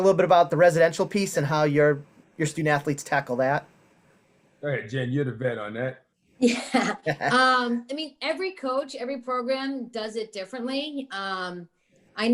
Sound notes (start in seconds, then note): 6.5 laughing